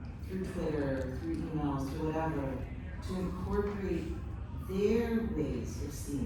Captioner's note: none